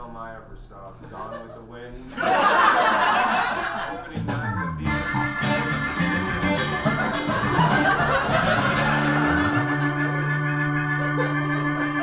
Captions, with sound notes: - I remember the first film I ever saw, "Gone With the Wind". (audience laughs) (funky music) (audience laughs)